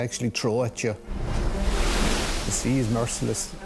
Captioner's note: waves crashing